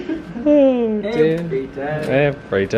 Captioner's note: laughing